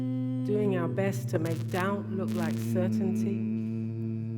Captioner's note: humming continues resolutely